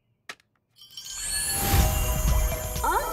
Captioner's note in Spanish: campanillas